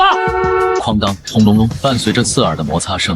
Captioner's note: clang rumble